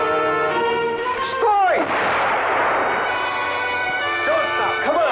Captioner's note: soldier yells in Russian; gun blasting